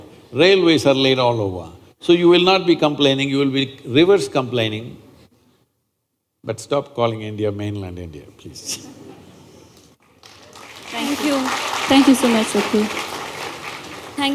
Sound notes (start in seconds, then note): 8.6 few Laugh; 10.0 applause